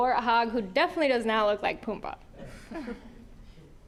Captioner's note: audience chuckling